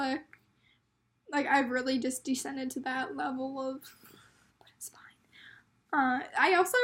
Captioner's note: whispering